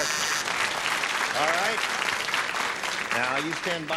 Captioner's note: applause